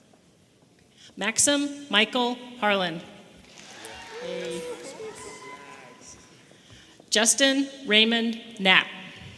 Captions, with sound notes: Maxime Michael Harlan. (audience members cheering) Justyn Raymond Knapp.